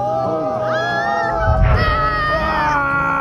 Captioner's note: crowd cheering